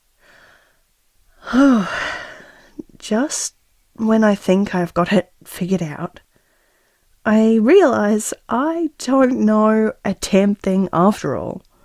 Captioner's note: sigh